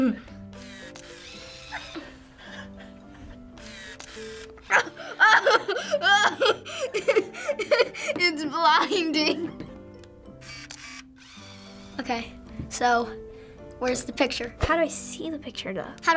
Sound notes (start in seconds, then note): 0.4 snaps camera, film whirs; 4.6 laughs; 10.4 camera snaps